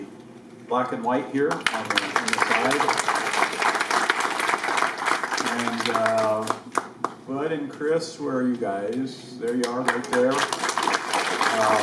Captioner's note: applause